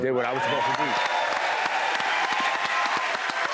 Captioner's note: cheers and applause